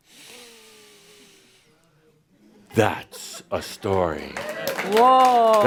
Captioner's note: applause